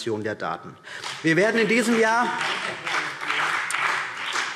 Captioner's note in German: Beifall BÜNDNIS 90/DIE GRÜNEN